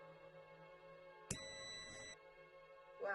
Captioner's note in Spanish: sonido: piiiii